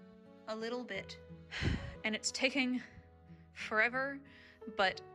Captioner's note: sigh